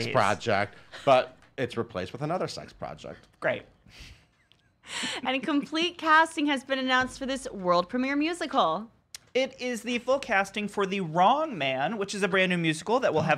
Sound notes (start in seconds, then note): 4.7 laughs